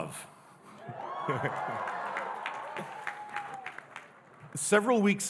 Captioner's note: audience cheering and applauding